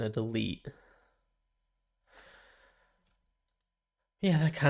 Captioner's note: silence